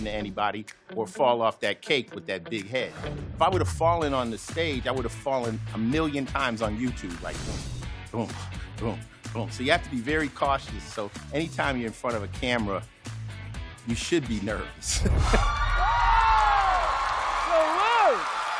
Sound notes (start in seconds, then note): 15.2 cheering